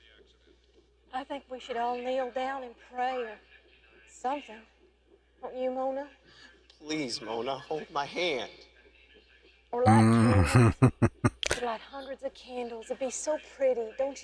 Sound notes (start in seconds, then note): 9.9 chuckling